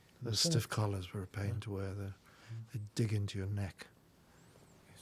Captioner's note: whispering